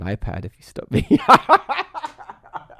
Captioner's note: laughs